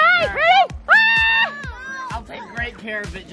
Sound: scream

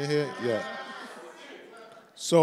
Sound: severl audience members cheer

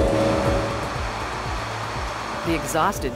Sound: aircraft engine revs; aircraft cabin noise

